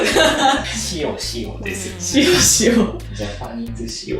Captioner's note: sound of being in low spirits